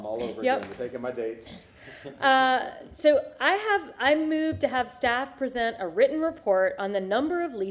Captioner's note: laughter